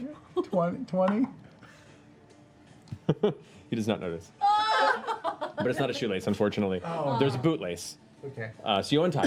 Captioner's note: laughs